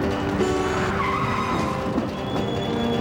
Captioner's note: scrch